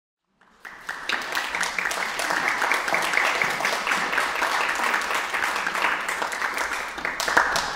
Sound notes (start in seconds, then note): 0.3 audience clapping